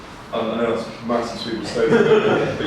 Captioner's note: laughter